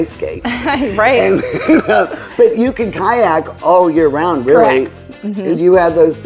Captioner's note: laughing